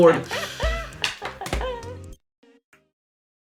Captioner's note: laughter continues